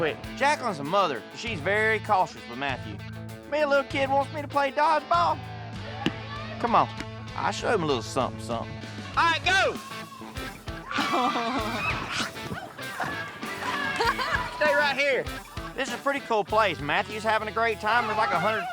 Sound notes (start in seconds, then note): 5.5 claps hands